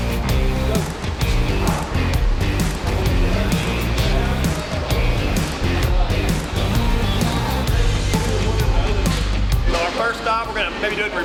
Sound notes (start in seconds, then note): 0.1 upbeat rock music; 4.6 machines whirring